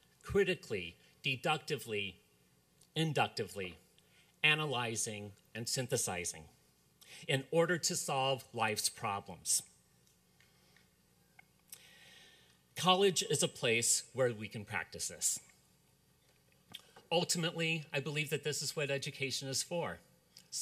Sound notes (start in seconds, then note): none